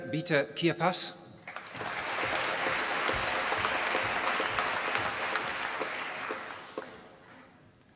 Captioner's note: applause